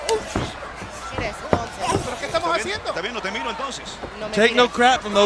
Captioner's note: commentators speaking in Spanish